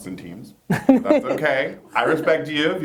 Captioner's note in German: Lacht